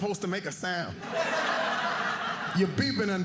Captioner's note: audience laughing